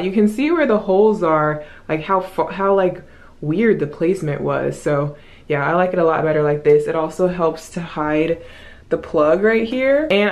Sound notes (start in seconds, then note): 1.8 stammers